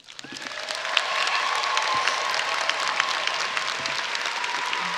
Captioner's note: audience applauding and cheering